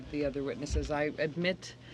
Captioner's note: speaking French